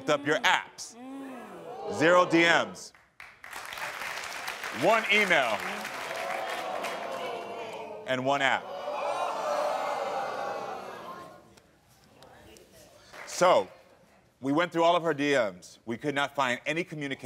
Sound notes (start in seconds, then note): 3.1 audience applauding; 5.9 audience groans